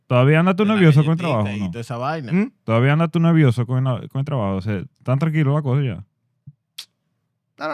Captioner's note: speaking Spanish